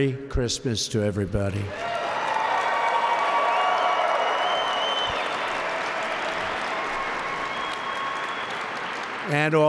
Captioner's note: applause